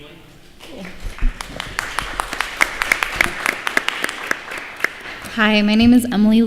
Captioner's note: applause